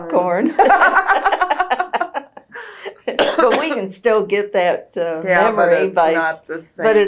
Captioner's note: laughter